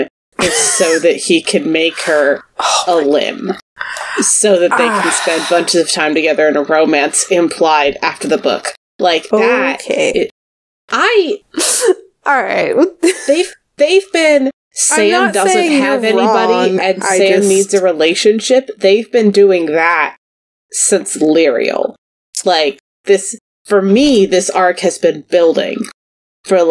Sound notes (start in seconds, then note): 0.5 laughs; 4.6 sighs; 10.7 laughs